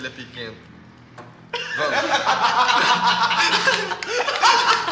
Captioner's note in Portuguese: Risadas